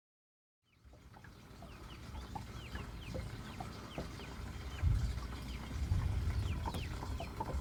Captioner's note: birds chirping